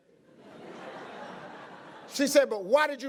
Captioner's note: audience laughing